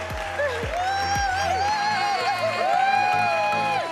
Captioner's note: cheering & applause